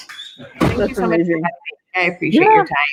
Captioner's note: thud drowns out speaker